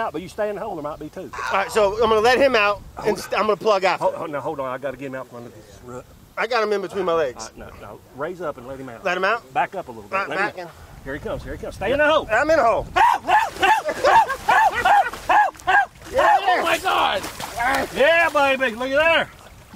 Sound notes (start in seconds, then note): 13.3 yelling